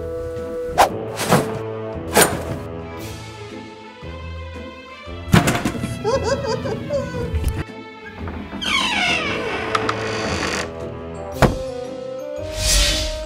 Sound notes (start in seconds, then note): 5.8 laughing